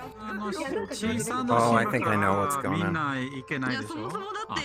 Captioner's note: chatting in multiple languages